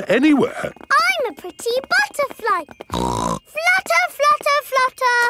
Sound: snorts

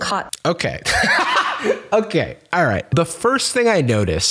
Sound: laughs

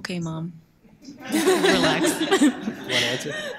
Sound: laughing

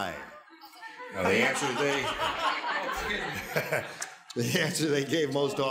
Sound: laughter

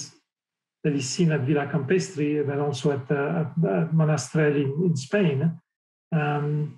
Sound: speaking French

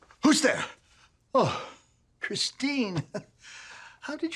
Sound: chuckles

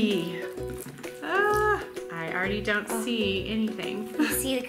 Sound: laughs

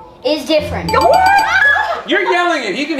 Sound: bell dinging

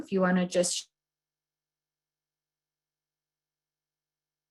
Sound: audio cuts out

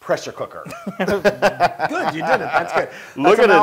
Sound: laugh

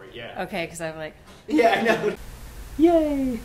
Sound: laughter

